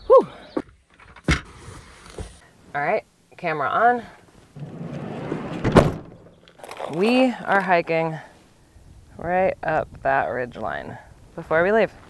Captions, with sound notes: Whoo. All right, camera on. (door slams) We are hiking right up that ridge line before we leave.